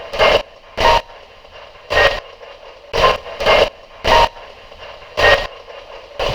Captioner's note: radio scratching; beeping